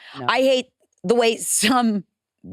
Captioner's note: none